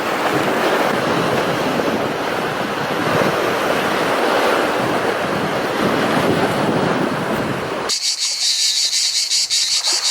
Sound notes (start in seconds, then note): 4.0 north wind